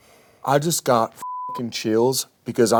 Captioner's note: beep